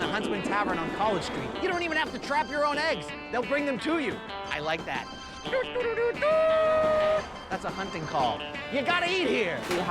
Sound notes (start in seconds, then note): 6.1 trumpeting